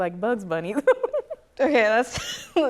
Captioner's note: laughs